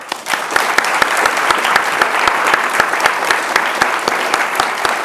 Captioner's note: audience applauding